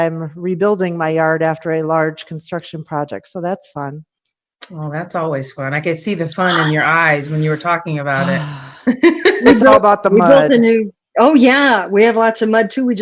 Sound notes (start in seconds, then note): 8.8 laughing